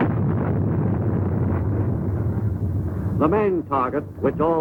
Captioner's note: explosion rumbles